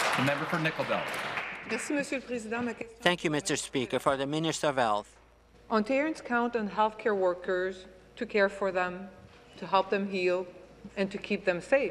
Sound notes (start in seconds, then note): 0.0 applause; 4.7 speaking French